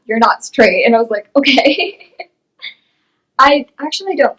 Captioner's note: laughs